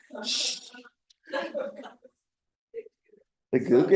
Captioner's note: laughter